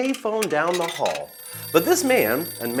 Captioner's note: coins dropping into a phone; phone ringing